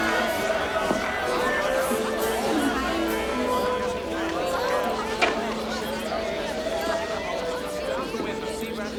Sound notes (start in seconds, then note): 3.0 faint classical music; 3.0 townsfolk chatter